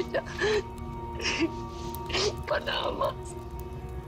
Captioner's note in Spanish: Sollozos